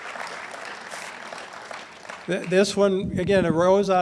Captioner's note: audience laughs and applauds